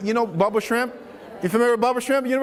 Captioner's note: laughs